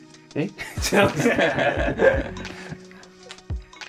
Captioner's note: laughing